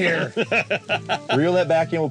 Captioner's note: laughing